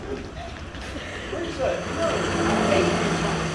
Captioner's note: sound of passing car